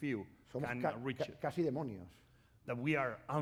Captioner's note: speaking spanish